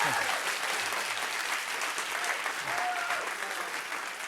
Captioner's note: cheers and applause